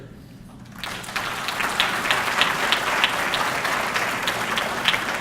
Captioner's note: audience clapping